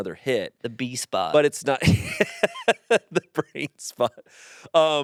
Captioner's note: laughs